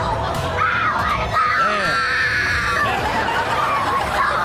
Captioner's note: kid screaming; Chanel and audience laugh